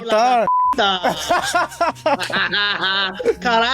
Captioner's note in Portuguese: risadas